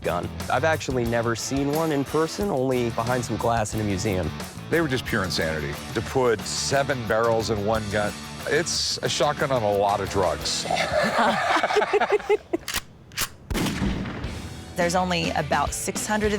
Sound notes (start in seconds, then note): 10.4 all laugh; 12.5 gun clicks; 12.6 gun fires